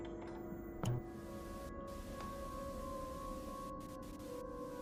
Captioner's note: mysterious music; static buzzing